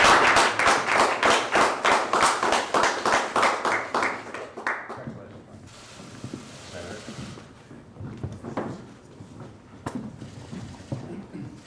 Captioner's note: applause